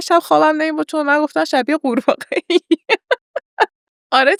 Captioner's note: laughs